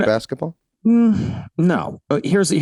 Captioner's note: Glenn humming pensively